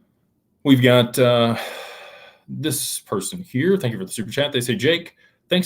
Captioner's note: sighs and gasps